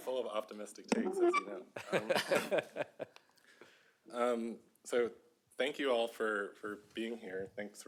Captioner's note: laughter